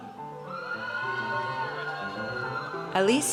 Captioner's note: audience cheers